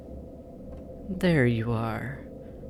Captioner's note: SXF: opening/voice no longer muffled